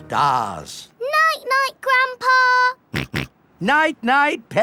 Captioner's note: snorts